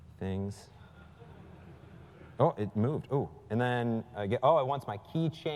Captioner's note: laugh